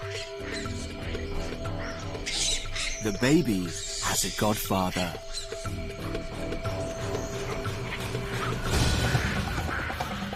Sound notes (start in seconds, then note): 3.0 dramatic music; 3.6 baboons squealing